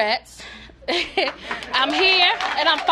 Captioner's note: applause